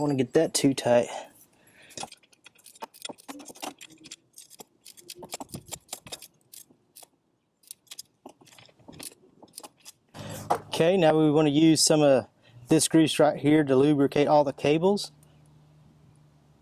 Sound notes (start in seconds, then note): 2.0 metal ratcheting